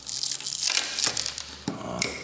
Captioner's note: cracking